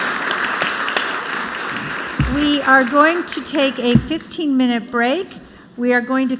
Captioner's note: applause